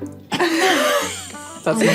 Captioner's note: both laughing